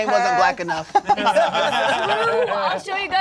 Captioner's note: laughs